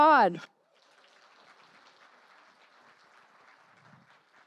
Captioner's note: applause